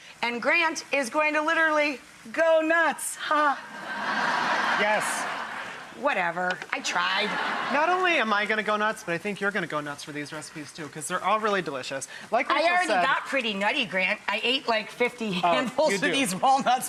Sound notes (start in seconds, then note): 3.4 scattered laughter